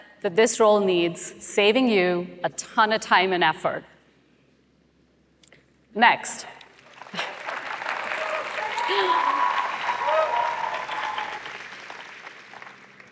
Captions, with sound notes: that this role needs, saving you a ton of time and effort. Next. [APPLAUSE]